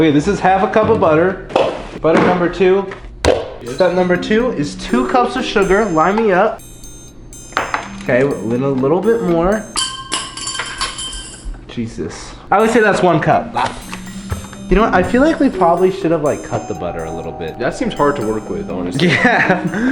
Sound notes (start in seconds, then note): 11.9 clanging; 19.0 chuckles